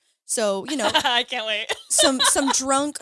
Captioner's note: laughs